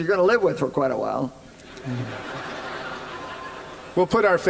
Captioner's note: laughter